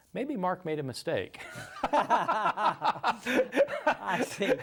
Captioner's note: both laugh